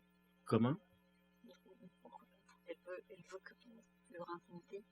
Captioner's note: speaking french